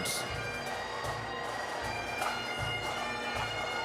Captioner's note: bagpipe music; scattered cheering; bagpipe music